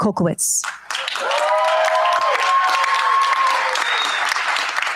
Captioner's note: cheers, applause